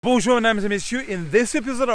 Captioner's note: speaking a foreign language